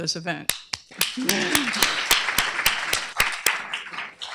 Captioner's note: applause